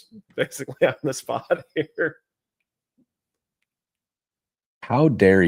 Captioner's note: laughter